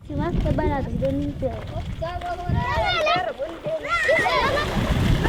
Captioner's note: speaking foreign language